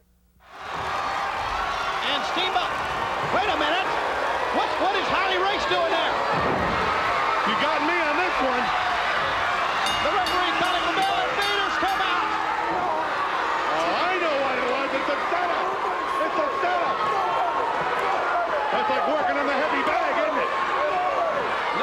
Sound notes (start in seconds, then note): 0.2 crowd cheering; 9.7 bell ringing